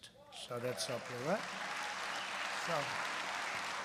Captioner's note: applause